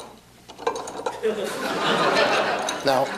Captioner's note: laughter